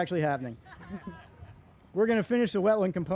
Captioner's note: crowd laughing